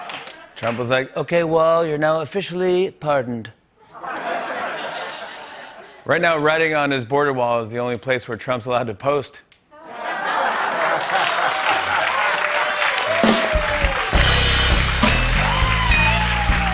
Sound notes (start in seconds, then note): 0.0 laughter; 3.8 laughter; 9.7 laughter and applause; 15.1 cheers and applause